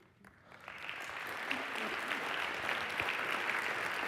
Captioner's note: applause